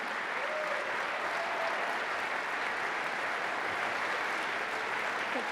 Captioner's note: audience cheers and claps